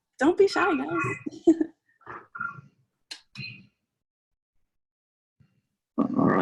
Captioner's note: chuckles